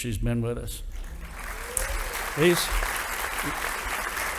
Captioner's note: audience applauding